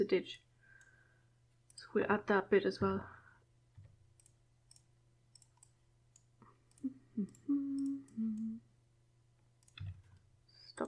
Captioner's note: humming